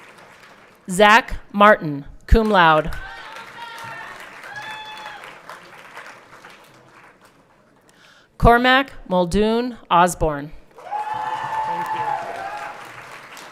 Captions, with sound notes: Zach Martin, cum laude. (everyone cheering) Cormac Muldoon Osborne. (everyone clapping)